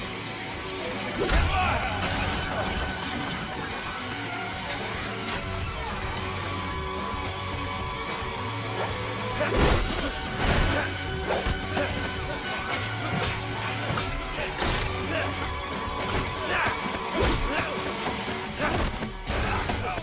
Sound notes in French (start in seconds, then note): 0.0 les combattants grognent; 0.8 Zhou crie; 8.5 couteau sifflant; 12.0 Esteban grogne